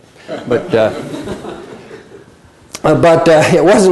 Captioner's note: laughter